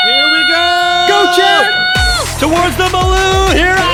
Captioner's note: cheering